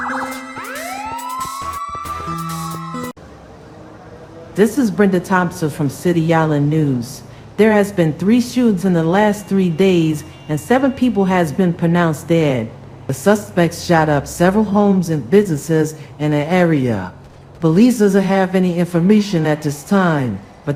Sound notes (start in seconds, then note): 0.0 siren wails